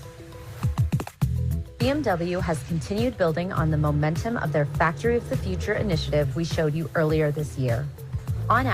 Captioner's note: video audio plays